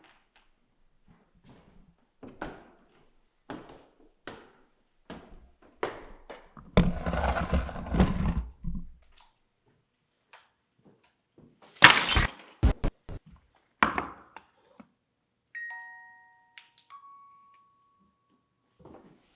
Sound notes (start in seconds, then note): 6.8 camera scraping; 11.6 keys thud; 12.6 static crackling; 15.5 gentle music